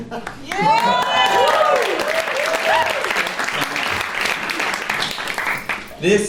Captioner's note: applause